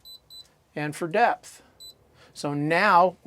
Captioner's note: beeping